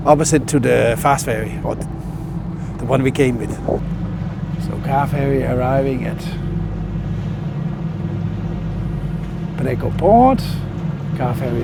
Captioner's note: engine Sound